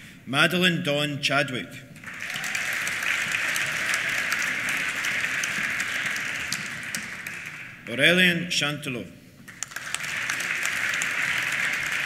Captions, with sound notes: Madeleine Dawn Chadwick. (CHEERS) (APPLAUSE) Aurélien Chantelot. (APPLAUSE)